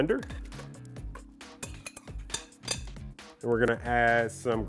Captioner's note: scraping bowl